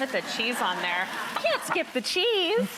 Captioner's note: audience laughs